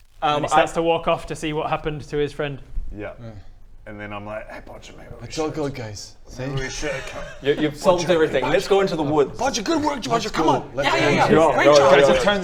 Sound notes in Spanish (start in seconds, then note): 9.5 Susurro frenético